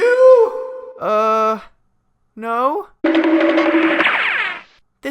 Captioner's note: cartoon running sounds